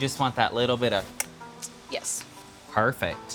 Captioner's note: clicks tongue